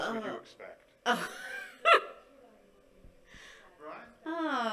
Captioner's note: laughing